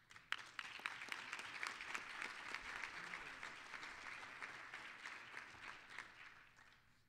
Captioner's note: applause